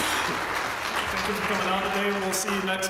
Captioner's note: applause; laugh